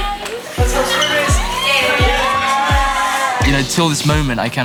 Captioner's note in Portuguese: Gritos